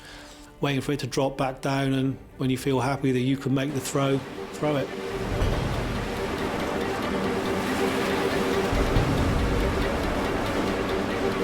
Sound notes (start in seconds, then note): 5.8 tense music; 5.8 waves lapping